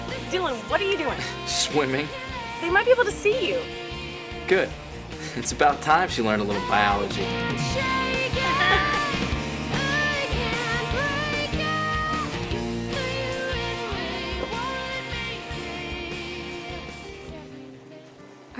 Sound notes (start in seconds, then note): 4.7 laughing; 8.2 all laughing; 16.9 music fades